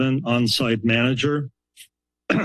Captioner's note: pause